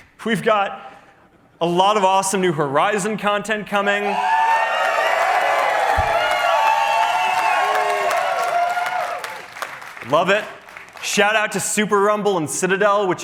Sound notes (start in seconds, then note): 3.8 cheering